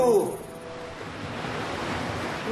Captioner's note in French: waves splashing